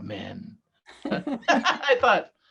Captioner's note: both laughing